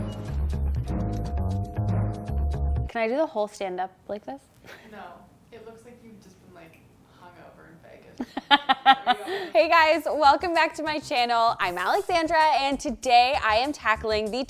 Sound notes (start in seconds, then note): 0.0 soft upbeat music; 8.2 laughing